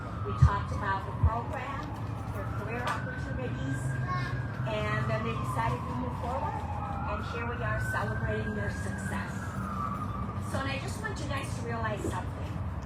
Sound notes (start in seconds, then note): 4.0 child babbles in audience